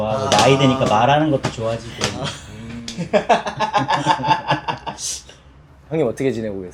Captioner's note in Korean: 웃음